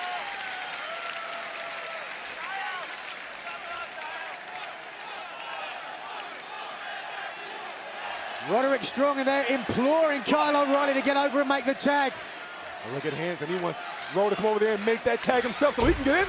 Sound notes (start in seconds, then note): 2.9 cheers and applause; 7.0 fans chanting